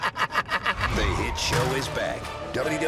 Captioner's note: laughter